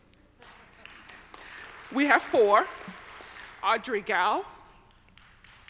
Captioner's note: audience applauding